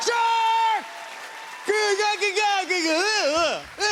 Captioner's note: screaming incoherently